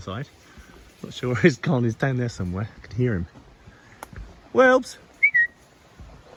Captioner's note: whistle